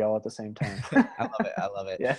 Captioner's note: all laughing